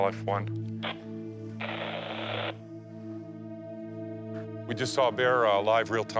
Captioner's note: static buzzing